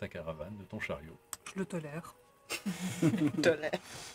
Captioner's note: laughs